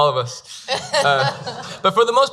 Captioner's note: laughing